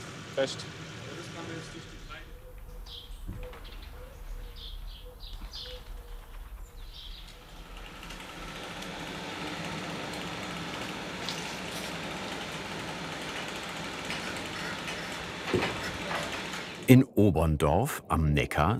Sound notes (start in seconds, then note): 1.2 birds chirping; 8.1 machine rattling; 15.4 rumbling